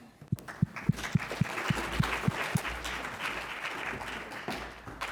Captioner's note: congregation clapping